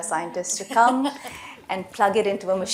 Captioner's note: laughter